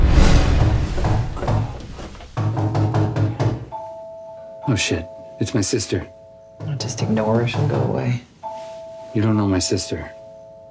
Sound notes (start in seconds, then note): 1.0 doorbell rings; 1.0 knuckles rapping